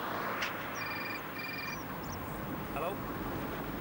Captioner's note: mobile phone ringing